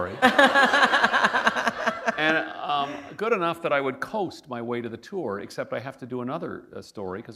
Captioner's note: laughter